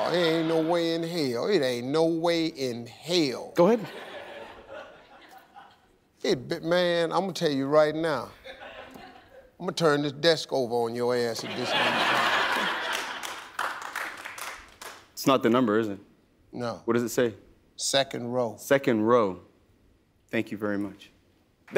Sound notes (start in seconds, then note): 8.4 audience chuckling; 11.4 audience laughing; 12.4 audience clapping